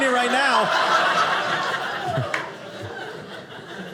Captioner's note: audience laughing